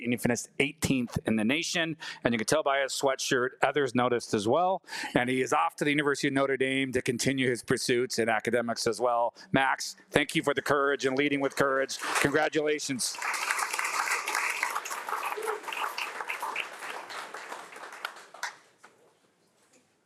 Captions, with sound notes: and he finished 18th in the nation. And you can tell by his sweatshirt, others noticed as well. And he is off to the University of Notre Dame to continue his pursuits in academics as well. Max, thank you for the courage and leading with courage. Congratulations. (audience applauding)